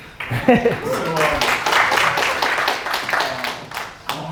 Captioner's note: audience applause